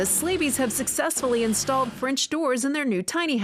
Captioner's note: drill buzzing